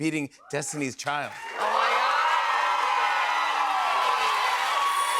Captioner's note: cheers and applause